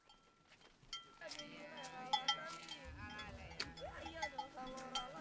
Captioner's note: cow bells; low chatter